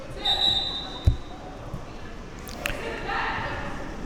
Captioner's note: athletes shouting